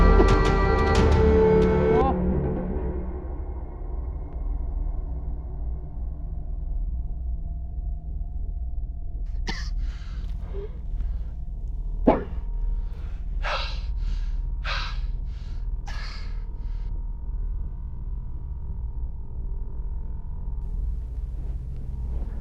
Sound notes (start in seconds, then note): 9.4 Andrew coughs; 12.8 Andrew gasping; 18.0 low distorted ominous tone